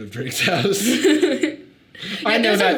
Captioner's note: both laughing